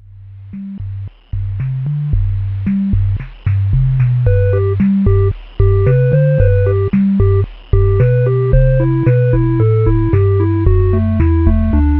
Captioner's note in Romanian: Slowed